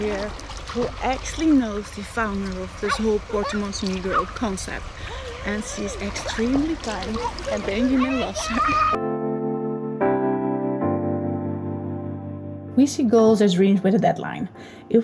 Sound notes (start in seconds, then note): 8.5 shouts happily; 9.7 mood music